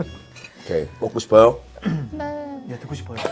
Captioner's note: haha